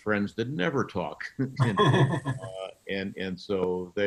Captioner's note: laughing